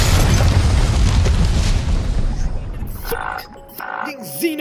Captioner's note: boom!